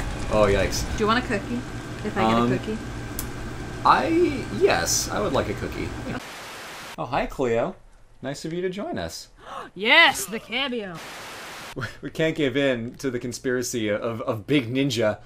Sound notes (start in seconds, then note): 5.9 Static; 10.5 Static